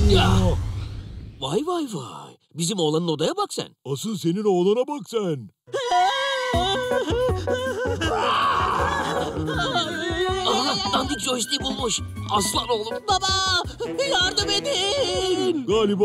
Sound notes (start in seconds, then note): 8.5 furious sound